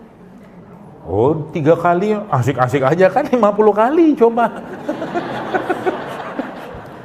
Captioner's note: laughs